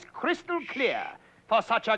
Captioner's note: shushing